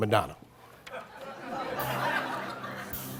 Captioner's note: laughter